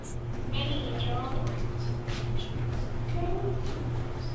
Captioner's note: television plays